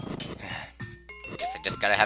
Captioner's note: sigh